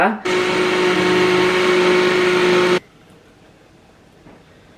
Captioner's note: blender whirring